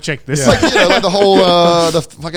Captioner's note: laughing